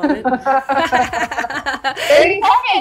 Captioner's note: laughing